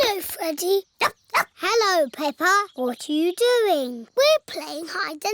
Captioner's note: snorts; barks